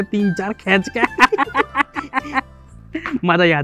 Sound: laughing

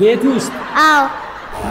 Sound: laughter

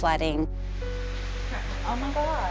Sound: heavy rain

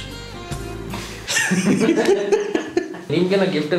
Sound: laughs

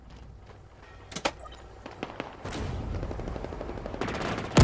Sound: distant gunfire

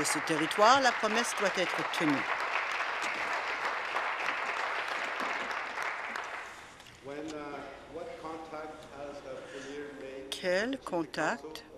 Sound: applause

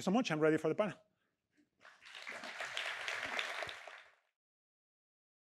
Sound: applause

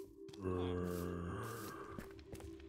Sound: roar

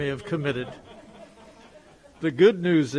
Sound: group laughs

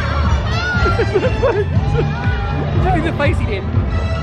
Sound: laughs

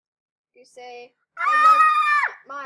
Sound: scream

